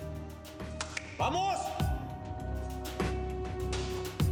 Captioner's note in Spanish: palmadas